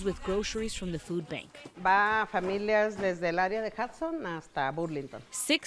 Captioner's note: speaking in foreign language